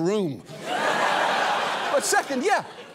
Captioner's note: audience laughs